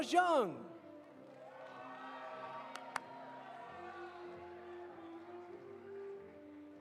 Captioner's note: audience applauding; audience cheering